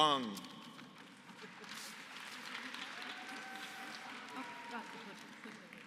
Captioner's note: applause